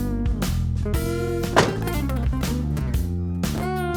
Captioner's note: car door slamming; soft music